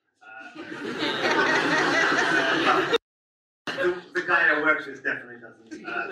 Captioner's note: audience laughs